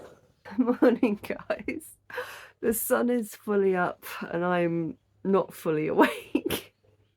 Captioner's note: laughing